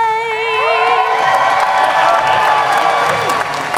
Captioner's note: cheering